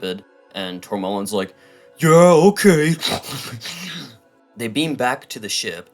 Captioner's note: snuffling sounds